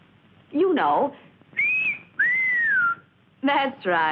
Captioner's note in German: pfeifen